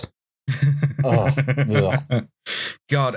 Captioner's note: chuckles